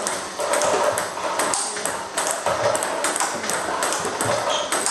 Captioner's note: ball ping pong hitting continues